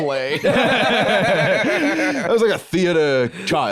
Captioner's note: both laugh